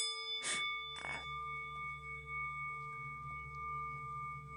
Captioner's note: tibetan Bell Sound